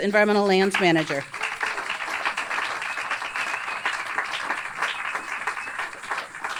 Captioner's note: audience applauds and cheers